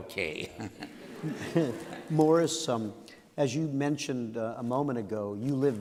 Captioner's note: laughter